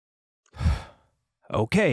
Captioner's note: sighs